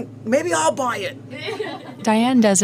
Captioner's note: laughter